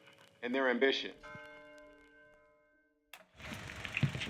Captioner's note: church bell rings